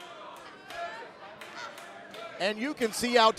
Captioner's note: fans chanting